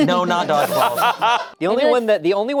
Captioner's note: laughs